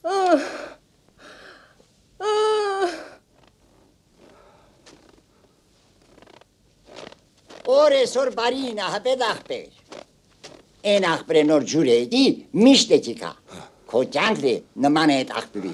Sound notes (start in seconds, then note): 6.8 Crunch; 10.3 Crunch